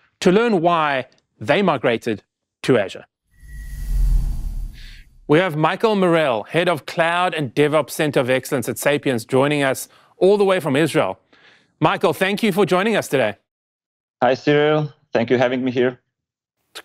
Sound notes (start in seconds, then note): 3.4 air whooshes